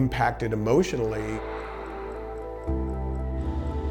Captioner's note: water spraying; plane engine whirring